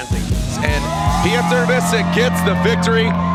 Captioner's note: crowd cheering